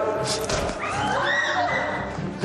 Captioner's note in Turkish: Yumruk sesi